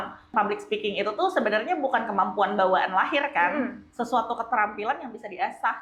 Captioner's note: clears throat